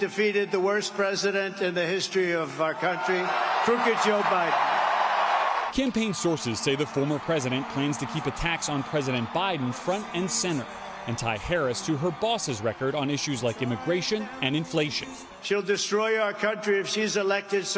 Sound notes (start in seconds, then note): 15.2 cheers and applause